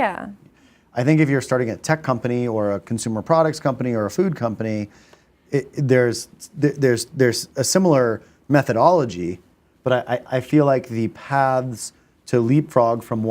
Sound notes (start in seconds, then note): none